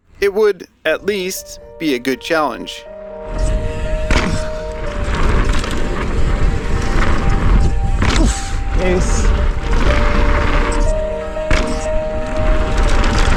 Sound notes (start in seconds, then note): 3.8 tense piano music; 5.2 bike wheels whirring; 10.4 piano continues